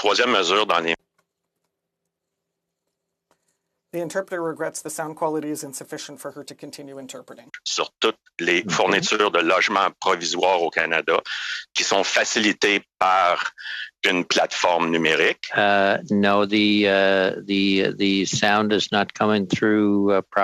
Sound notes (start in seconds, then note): 6.4 speaking French